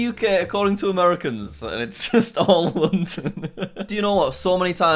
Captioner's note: laughing